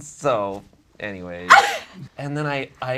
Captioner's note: scoffs